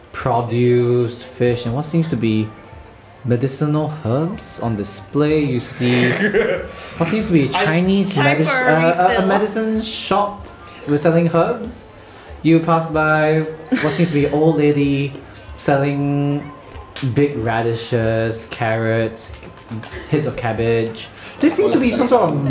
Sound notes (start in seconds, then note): 5.8 laughter